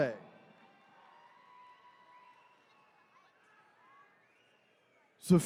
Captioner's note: attendees cheering